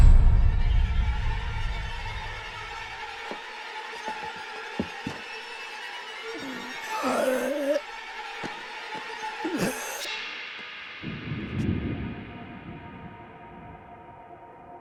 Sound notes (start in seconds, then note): 0.1 dramatic music; 6.3 man groans; 11.3 thunder rumbling